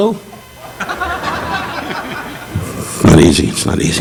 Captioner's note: audience laughing